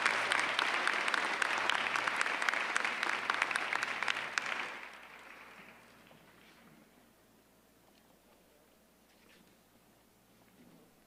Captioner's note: applause